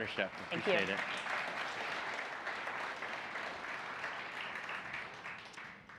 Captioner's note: audience applauds